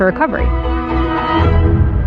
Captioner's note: distatatant sir sir sirene